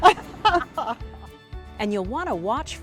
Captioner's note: laughs